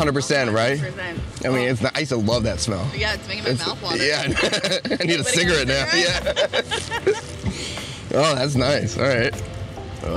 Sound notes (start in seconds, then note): 4.0 laughs